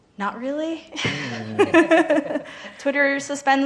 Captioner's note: laughing